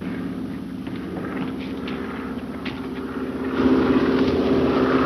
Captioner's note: engine droning